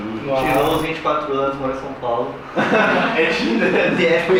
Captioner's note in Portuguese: risadas